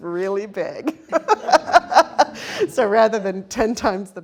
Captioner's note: laughs